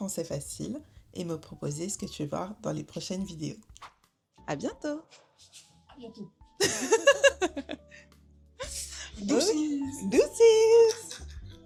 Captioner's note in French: rires